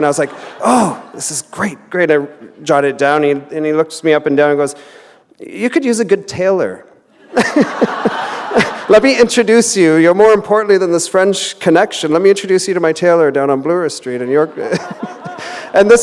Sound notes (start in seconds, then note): 0.3 laughter; 7.1 chuckle; 7.2 laughter